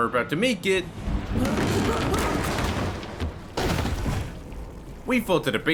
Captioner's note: floor breaks down